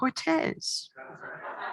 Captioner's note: laughter